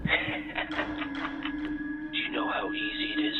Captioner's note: laughing